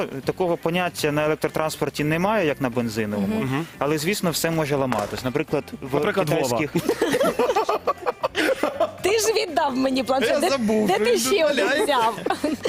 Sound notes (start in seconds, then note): 6.6 laughter